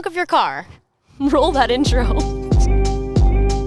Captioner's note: upbeat music; laughs